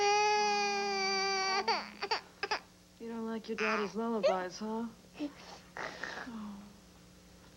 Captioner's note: baby cries